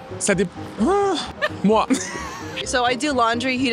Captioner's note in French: rires